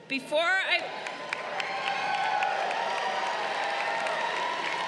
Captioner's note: crowd cheering